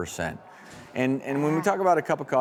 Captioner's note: audience gasps